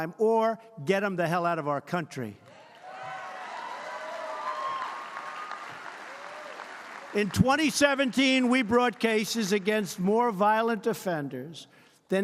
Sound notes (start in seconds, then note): 2.5 applause